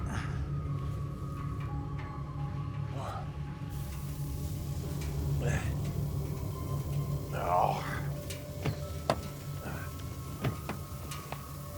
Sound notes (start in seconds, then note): 0.5 Tector and Darlus groaning; 9.2 eerie music